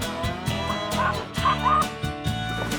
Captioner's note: chicken clucking